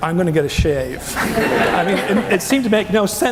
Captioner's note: audience laughing